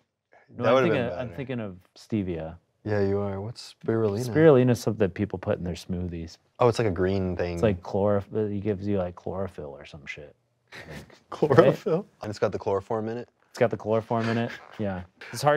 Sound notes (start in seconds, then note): 10.7 laughs